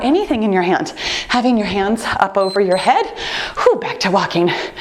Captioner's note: timer beeps